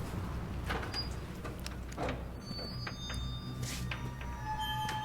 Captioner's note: door creaks